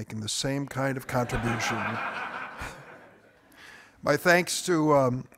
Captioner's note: audience laughing